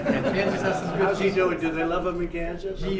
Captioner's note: laughter